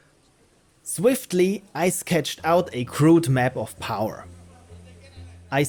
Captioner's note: narrating